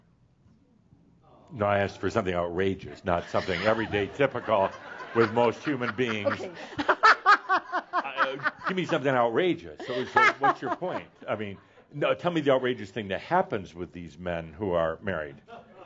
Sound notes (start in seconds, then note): 5.7 laughs loudly; 6.3 laughter